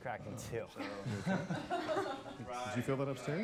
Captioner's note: nervous laughter